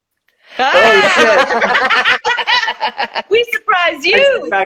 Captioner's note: laughing